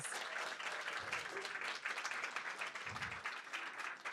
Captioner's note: audience applauds